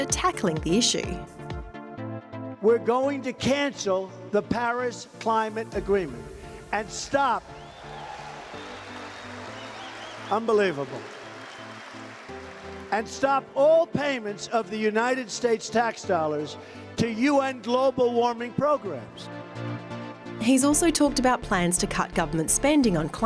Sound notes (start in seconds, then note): 7.5 cheering